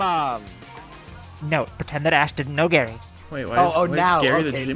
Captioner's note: speaking closely into the mic